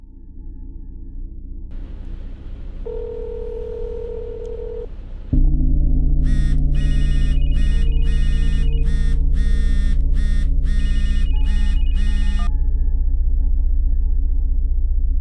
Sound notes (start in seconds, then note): 0.1 unsettling tones; 6.2 phone buzzes; 6.2 phone rings